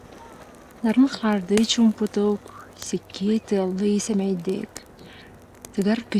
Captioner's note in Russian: говорит на саха